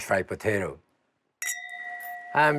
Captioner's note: glasses clink